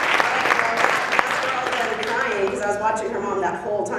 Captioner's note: applause drowns out speaker